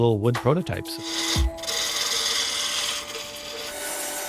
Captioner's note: lathe whirring